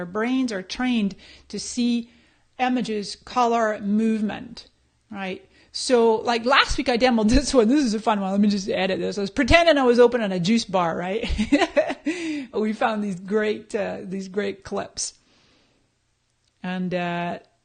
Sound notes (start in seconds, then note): 12.0 laughs